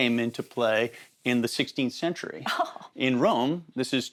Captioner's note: chuckles